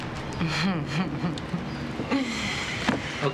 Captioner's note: chuckling